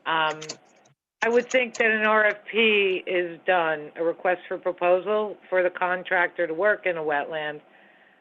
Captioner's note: phone